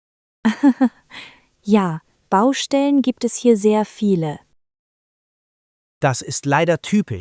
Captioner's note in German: laughs